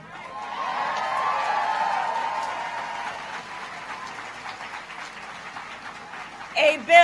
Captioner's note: applause